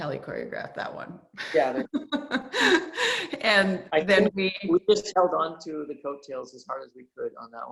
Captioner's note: laughs